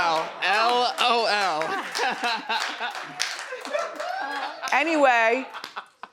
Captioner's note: male chuckles